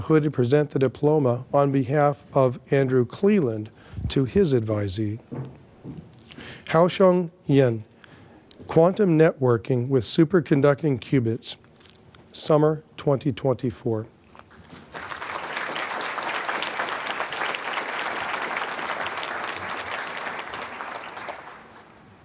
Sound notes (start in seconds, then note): 14.6 applause